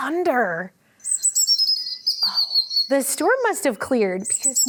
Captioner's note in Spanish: canto de pájaros